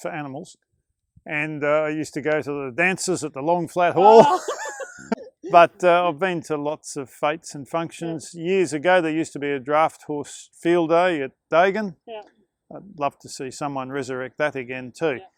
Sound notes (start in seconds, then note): 4.0 laughter